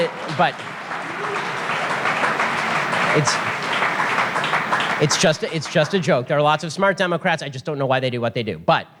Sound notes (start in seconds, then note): 0.0 audience applause; 0.0 audience laughter